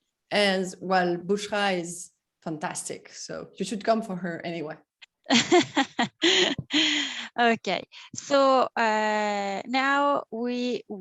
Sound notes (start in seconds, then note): 5.2 laughter